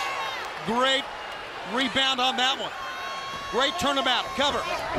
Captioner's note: crowd cheering